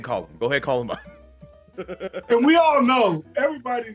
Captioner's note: laugh